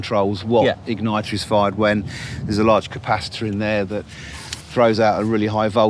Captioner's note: none